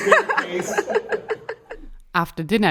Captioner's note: all laughing